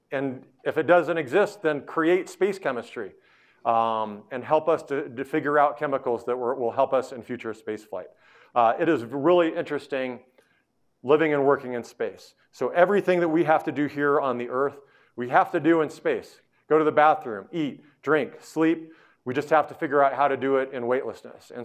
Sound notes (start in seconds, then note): none